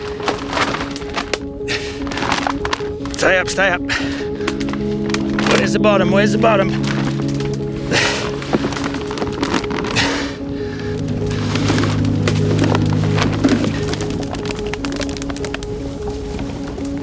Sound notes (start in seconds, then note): 0.2 melancholy music; 8.0 plastic crunching, struggling